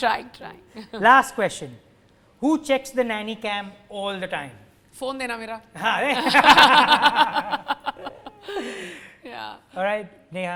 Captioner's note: laughter